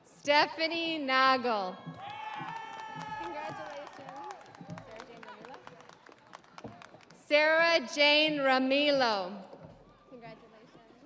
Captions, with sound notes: (audience applauding) (audience cheering) Stephanie Noggel. (audience applauding) (audience cheering) Sarah Jane Ramilo.